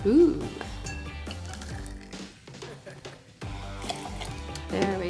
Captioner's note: pouring liquid